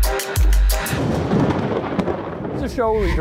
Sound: thunder cracking

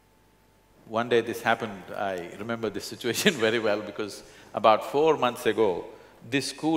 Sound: laughs

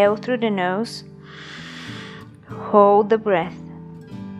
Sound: inhales sharply; gentle serene music

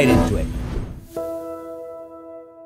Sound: whoosh sound

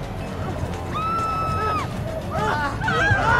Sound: people screaming

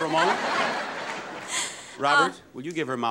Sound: audience laughing

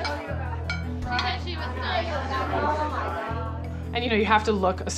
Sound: chattering

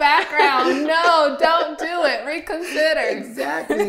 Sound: laughing

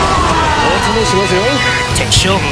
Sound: KO Scream

